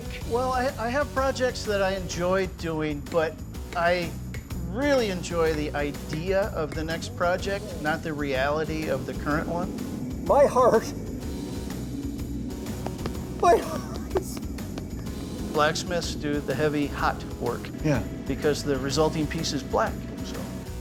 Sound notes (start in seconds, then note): 12.7 hand patting; 13.4 laughing